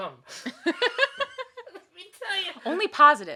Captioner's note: laughing